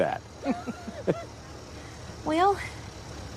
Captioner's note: laughs